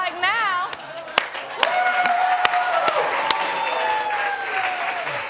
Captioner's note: cheering and applause